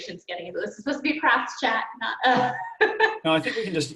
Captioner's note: laughs